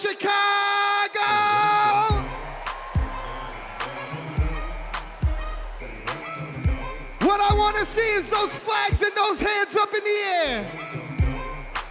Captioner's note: cheers and applause